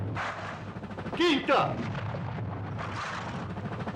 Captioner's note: cannon Fire